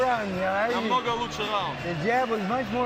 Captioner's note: speaking Ukrainian